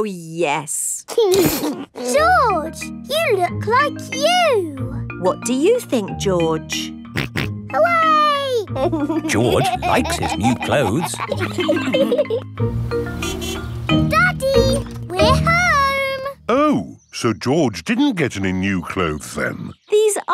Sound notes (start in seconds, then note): 8.7 snorts and laughs; 13.1 horn honks